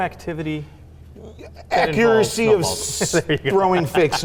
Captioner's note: laughing